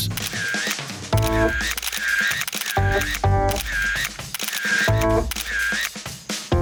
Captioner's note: camera clicking; playful, jazzy music